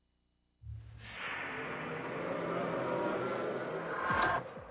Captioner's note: zombies groaning